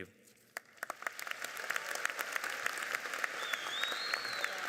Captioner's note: applauding